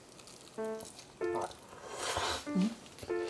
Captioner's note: Belch